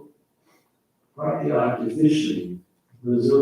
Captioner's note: faintly speaking